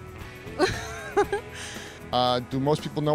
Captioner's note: laughter